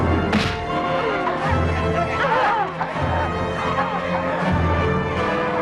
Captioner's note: sword smacking; courtesans clamoring